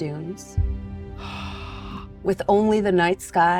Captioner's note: gasps